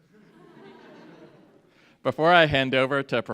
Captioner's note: audience laughs